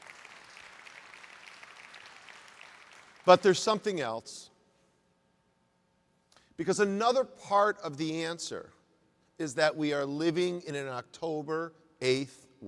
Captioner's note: applause